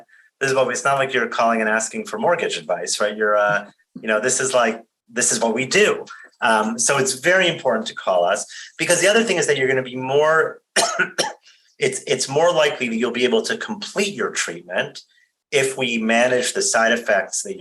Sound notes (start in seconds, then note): 10.7 coughs